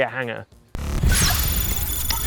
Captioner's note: electricity; logo swooping in